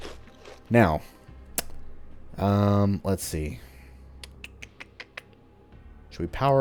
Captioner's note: thinking sounds